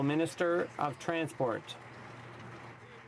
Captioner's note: some Applause